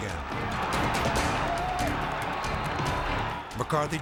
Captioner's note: crowd cheering